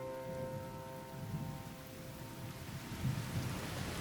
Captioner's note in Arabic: هطول المطر